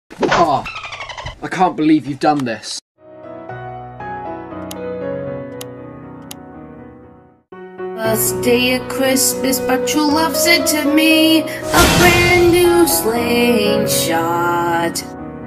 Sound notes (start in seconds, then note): 0.6 dolphin chirps